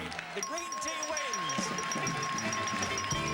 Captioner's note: bell dinging